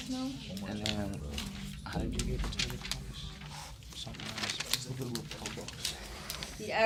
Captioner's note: students murmur